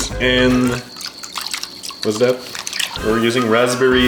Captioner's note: crickets chirping